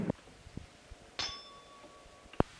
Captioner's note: bell Sound